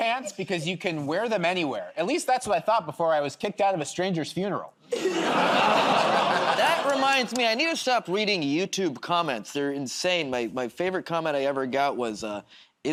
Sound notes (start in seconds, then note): 4.9 laughter